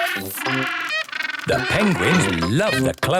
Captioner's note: honking